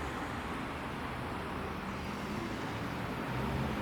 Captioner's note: traffic whirring